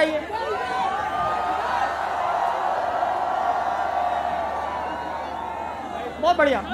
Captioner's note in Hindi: चियरिंग